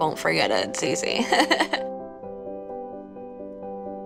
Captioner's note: laughs